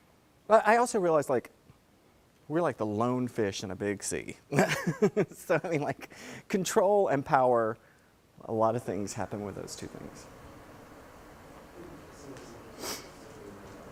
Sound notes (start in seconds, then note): 4.5 laugh